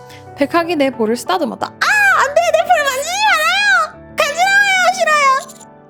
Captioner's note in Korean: 비명